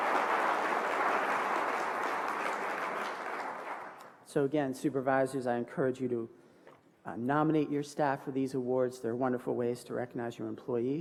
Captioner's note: applause